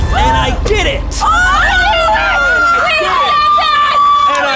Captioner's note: group screaming